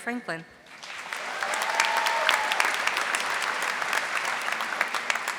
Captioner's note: audience applauding